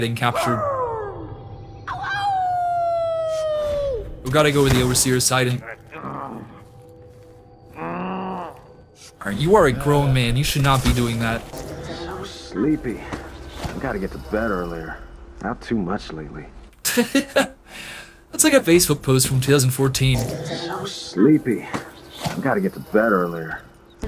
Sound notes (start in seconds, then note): 0.3 Howlers howling; 5.7 ???throat noises???